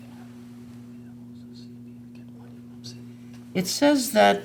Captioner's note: faintly speaking